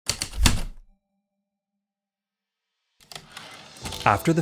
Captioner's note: heavy typewriter keystrokes, return slide